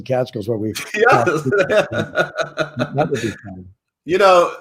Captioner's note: laughs